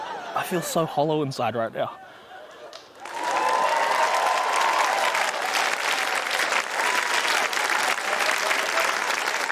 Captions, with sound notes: - I feel so hollow inside right now. (CHEERING, APPLAUSE)